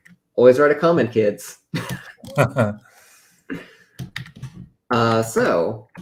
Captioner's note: laughter